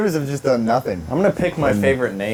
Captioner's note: laughing